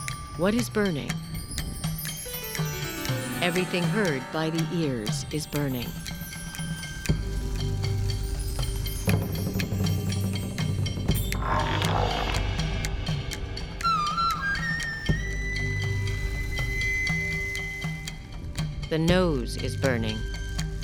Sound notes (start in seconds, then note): 2.2 sitar strums; 11.2 roar-like sound; 13.2 flute plays melody